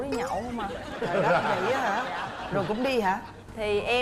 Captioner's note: laughing